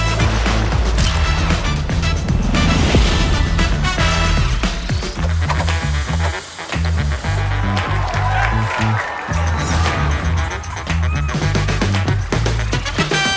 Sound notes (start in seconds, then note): 0.2 water splashing; 1.0 camera shutter clicks; 5.3 upbeat music continues; 8.0 crowd cheers and applauds